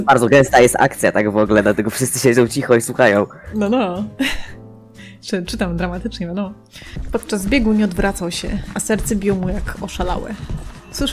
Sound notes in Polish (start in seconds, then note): 4.2 śmiech